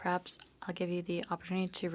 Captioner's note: speaking French